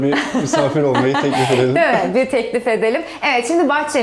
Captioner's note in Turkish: kahkaha